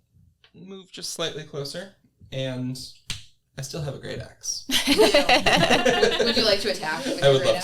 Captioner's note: everyone laughs